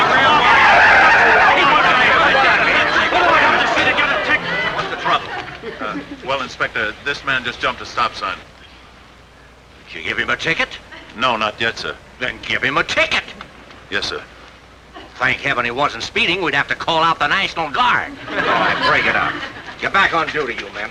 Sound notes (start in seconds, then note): 0.0 audience laughing; 0.1 chattering; 2.1 tires screeching